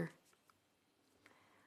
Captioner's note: speaking French